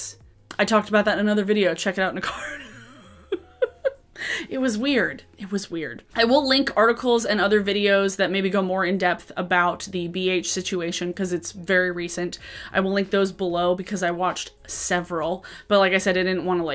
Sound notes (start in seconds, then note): 2.6 laughs